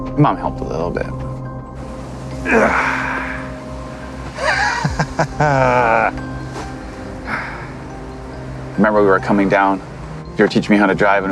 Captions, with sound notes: Mom helped a little bit. (Rick grunts) (Rick laughs) I remember we were coming down, you were teaching me how to drive